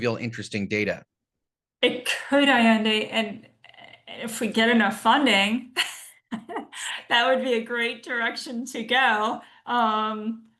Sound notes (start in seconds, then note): 5.7 laughs